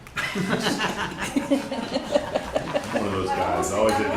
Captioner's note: laughter